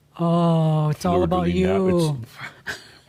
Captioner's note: she chuckles